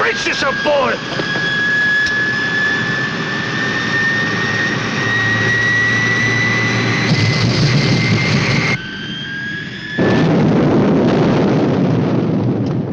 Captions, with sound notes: Brace yourself, boy! (plane banging)